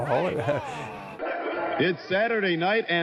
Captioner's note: chuckle